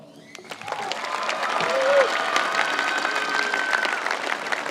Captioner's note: audience clapping